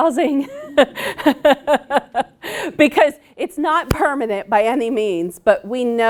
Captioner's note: laughs loudly